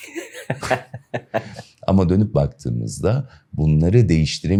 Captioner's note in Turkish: kahkaha